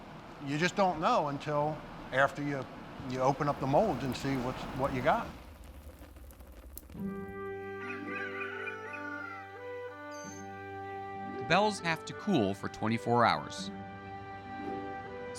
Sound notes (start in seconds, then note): 7.3 roosters crowing